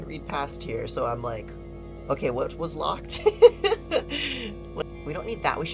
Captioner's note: laughs